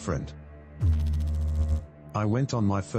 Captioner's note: electrical noise